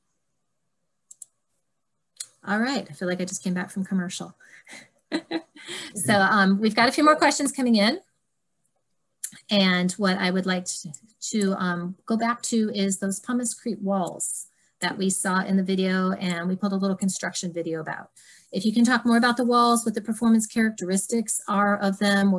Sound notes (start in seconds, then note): 5.1 laughing